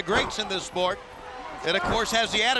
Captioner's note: crowd chatter